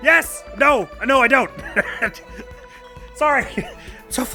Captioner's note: guffaws